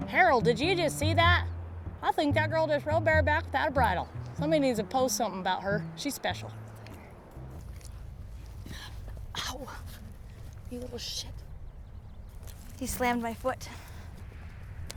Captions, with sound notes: "HAROLD, DID YOU JUST SEE THAT? "I THINK THAT GIRL JUST RODE BAREBACK WITHOUT A BRIDLE. "SOMEBODY NEEDS TO POST SOMETHING ABOUT HER. SHE'S SPECIAL." - [gasps] OW. YOU LITTLE SHIT. HE SLAMMED MY FOOT.